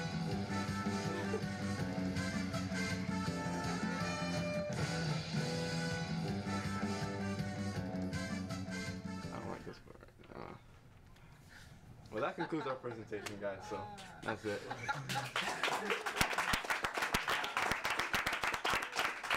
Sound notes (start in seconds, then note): 12.2 laughs; 14.9 audience members applauding